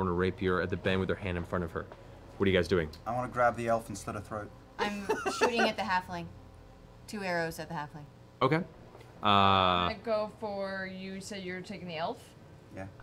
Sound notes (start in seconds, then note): 4.8 laughing